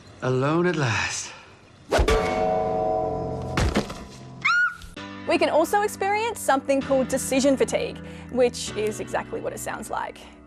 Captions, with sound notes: "Alone at last." [Shriek!] We can also experience something called 'decision fatigue' which is exactly what it sounds like,